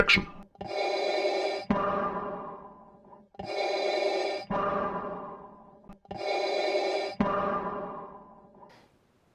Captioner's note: Darth Vader breathing sounds